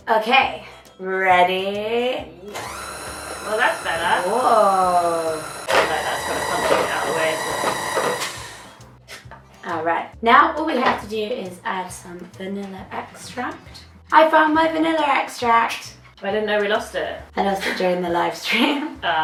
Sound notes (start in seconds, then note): 2.5 mixer noise